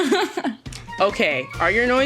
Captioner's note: laughing